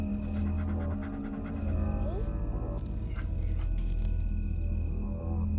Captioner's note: dog whining